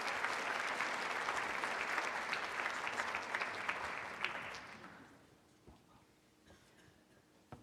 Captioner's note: applause